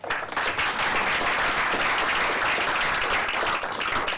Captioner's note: applause